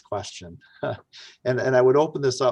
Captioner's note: chuckles